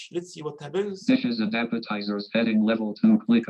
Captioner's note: automated Voice